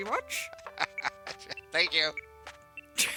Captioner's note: cackles